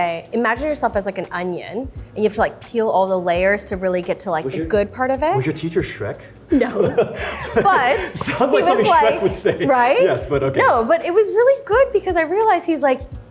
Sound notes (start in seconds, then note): 6.5 laugh